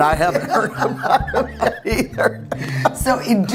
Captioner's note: laughing